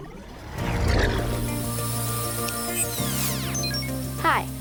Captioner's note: drone buzzing